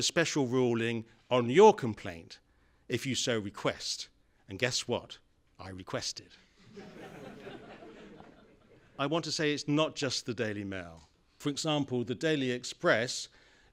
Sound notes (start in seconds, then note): 6.6 laughter